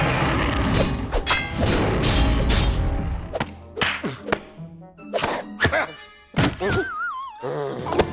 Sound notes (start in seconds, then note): 4.2 grunting